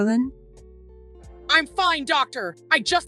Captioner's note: Chantal angrily